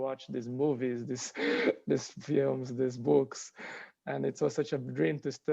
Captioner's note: chuckles